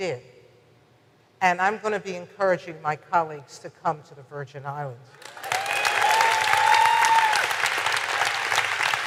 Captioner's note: audience applause